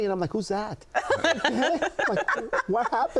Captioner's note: laughing